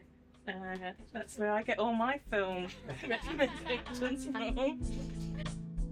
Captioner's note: laughs